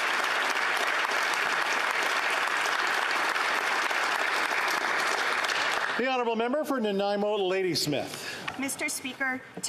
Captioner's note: applause